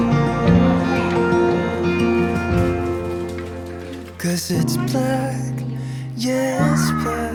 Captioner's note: laughs